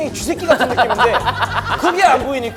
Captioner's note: laughing